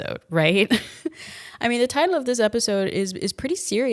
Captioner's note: laughs